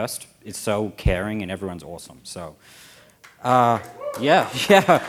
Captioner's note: cheers and applause